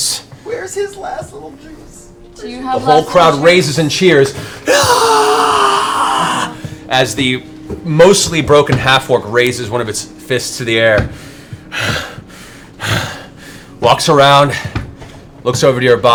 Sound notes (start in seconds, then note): 4.0 cheering